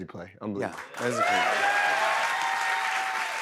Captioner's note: cheers and applause